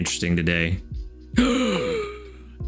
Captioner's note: gasps